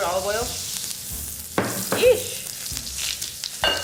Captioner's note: pan sizzling